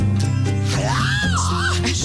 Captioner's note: screams